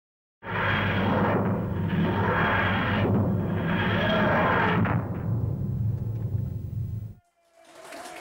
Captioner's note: tardis whirring sound; applause